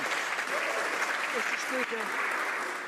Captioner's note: some Applause